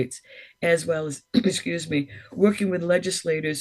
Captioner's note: clears throat